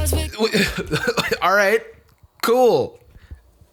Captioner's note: spluttering